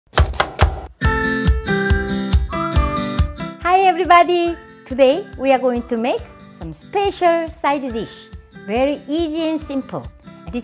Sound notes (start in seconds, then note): 0.1 knife chopping; 1.1 upbeat music